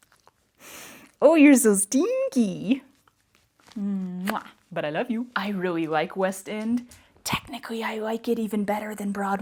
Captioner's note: kissy sound